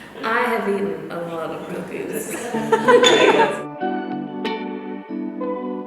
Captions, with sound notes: - I have eaten a lot of cookies. (laughs) (upbeat music)